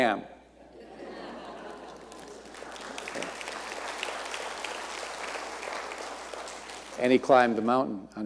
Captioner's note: audience cheering and applauding